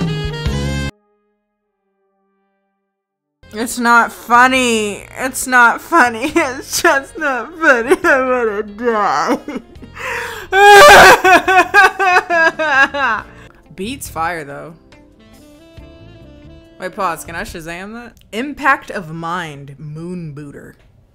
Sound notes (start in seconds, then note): 10.3 imitates crying; 15.0 bluesy music continues